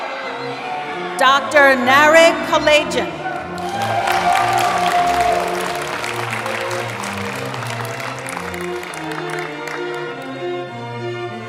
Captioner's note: applause